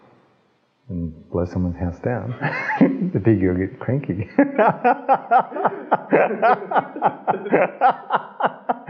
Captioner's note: laugh